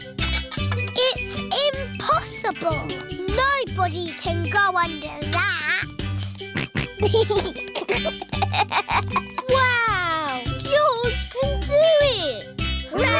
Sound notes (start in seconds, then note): 6.4 snorts and giggles